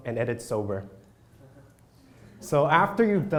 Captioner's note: crowd laughs